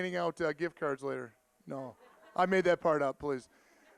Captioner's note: audience laughing